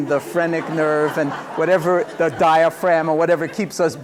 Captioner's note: laughter